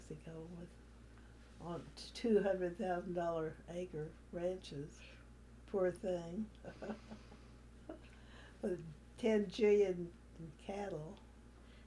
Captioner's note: laughs